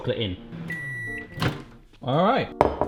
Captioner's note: microwave beeping